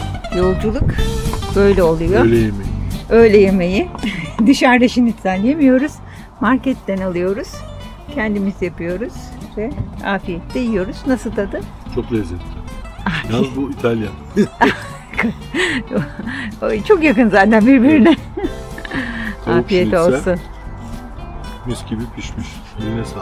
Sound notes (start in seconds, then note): 13.0 both laugh